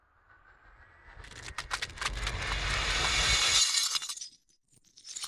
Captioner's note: shattering glass; unshattering glass